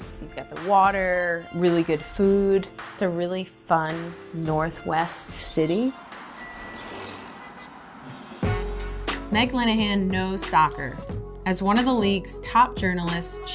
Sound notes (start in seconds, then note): 6.3 bicycle wheels turning; 6.3 car horn honking; 6.3 bicycle bell dinging; 8.4 upbeat hip-hop music